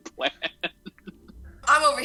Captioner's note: chuckles